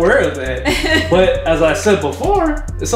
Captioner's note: laughter